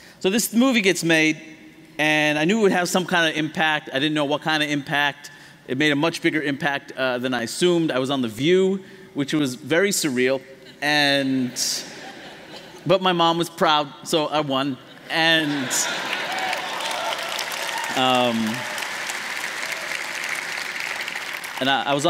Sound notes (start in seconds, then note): 11.5 laughter; 19.0 applause